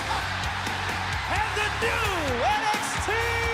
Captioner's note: crowd cheering